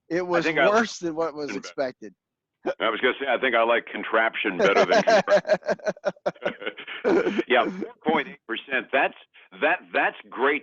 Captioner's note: laughs